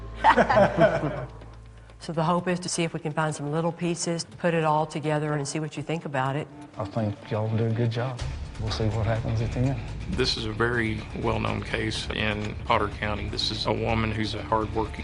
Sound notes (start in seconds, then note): 0.2 laughter